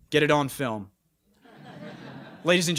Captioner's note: chuckling